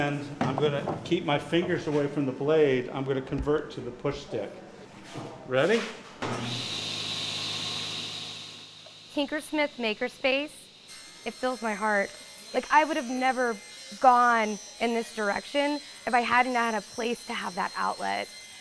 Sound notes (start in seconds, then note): 6.4 machine engine whiling